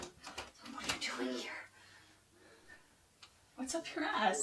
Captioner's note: door locks; whisper